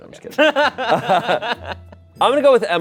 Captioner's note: group laughing